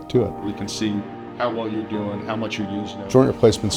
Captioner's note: background talking